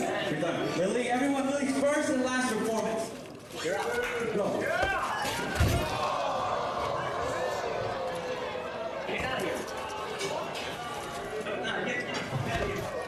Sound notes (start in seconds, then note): 5.2 folla che esclama